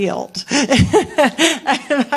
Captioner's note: laughs